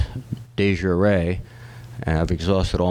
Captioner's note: speaking latin